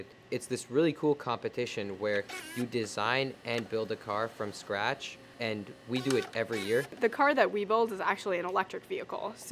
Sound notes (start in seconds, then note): 2.2 tape rewind